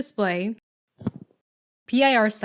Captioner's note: thud